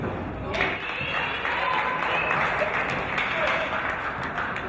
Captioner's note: applause and cheers